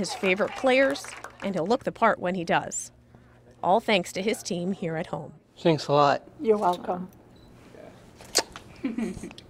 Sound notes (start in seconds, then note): 0.0 applause